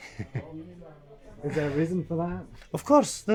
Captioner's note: laughs; voiceover